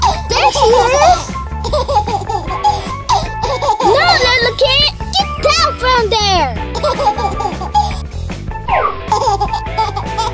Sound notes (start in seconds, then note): 1.5 baby laughing; 6.6 baby laughing